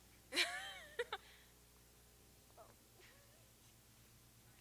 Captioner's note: chuckles